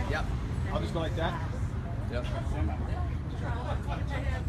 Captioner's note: more background discussion